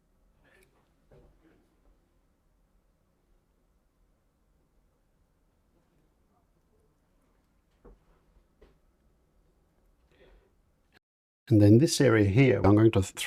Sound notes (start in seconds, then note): 0.0 silence